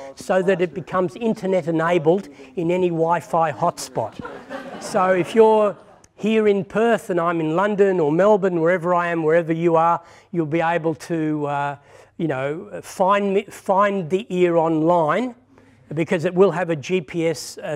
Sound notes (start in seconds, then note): 4.0 laughter